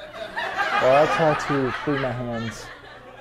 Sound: laughter

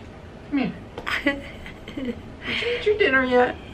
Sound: chuckles

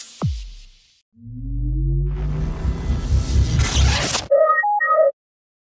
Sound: closing sound effects

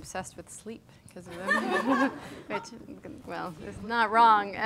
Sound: audience laughing

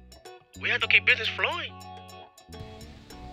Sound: voiceover

